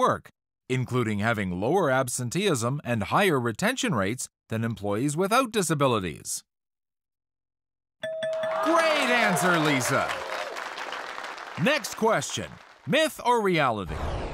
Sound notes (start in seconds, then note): 8.0 bell dings; 8.1 audience cheers